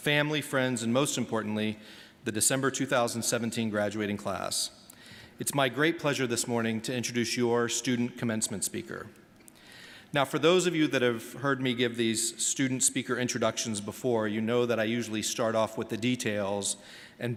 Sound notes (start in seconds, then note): none